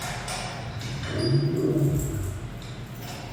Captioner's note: lion growl